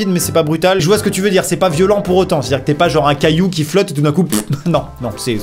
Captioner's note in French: prout